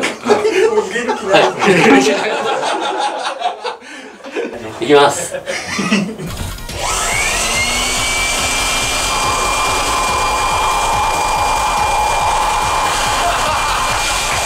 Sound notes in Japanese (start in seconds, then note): 0.0 笑い; 6.4 ブロワーの音